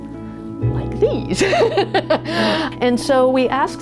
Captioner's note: laughs